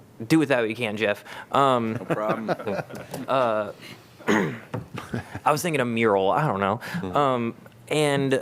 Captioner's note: laughter